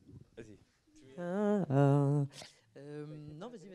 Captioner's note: hums the theme